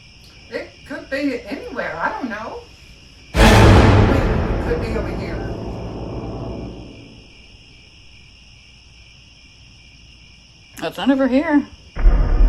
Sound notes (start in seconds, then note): 3.3 jump scare; 6.1 crickets; 11.9 eerie music, crickets